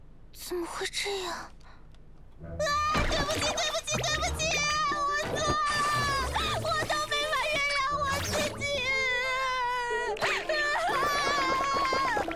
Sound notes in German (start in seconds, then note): 8.6 schluchz